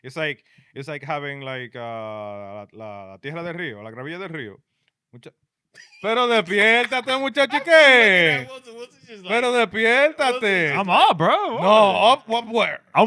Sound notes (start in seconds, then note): 2.1 laughing; 2.1 speaking In Foreign Language